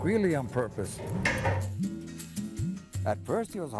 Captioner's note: gentle music; padlock clangs